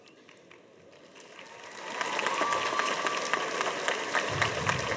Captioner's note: audience applauds